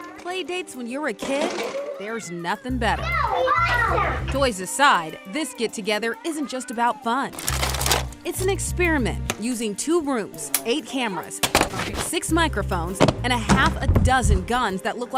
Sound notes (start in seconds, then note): 2.8 suspenseful music; 7.4 toys clattering; 13.0 door thuds